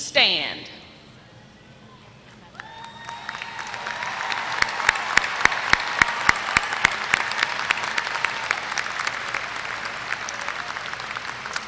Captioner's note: applause